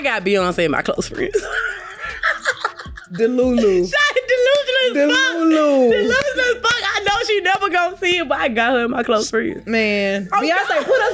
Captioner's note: laughing